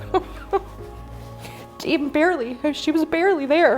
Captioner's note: chuckles